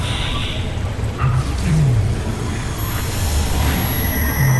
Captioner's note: ethereal whoosh, celestial chimes; growls; reverberating chimes, spellbinding whoosh